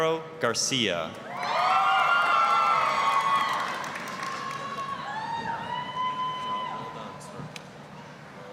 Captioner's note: applause, cheering